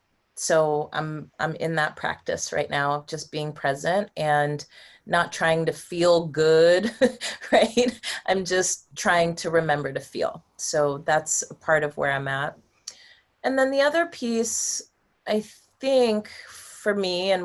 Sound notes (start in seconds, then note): 6.6 laughter